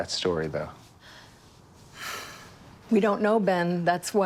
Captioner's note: breathes deeply